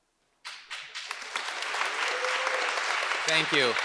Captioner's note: audience applauds